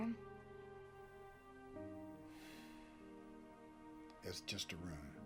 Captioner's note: sighs